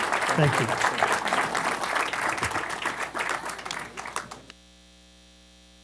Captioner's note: audience applauding